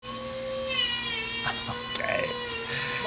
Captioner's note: power tool whirs